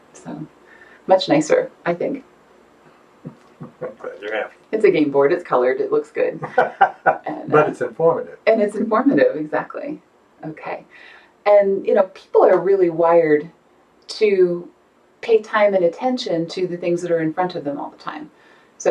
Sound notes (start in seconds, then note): 3.3 chuckles; 6.3 laughing